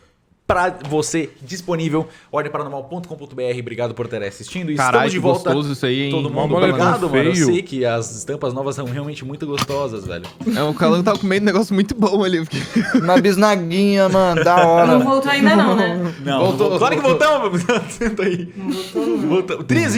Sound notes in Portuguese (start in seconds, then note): 15.8 risos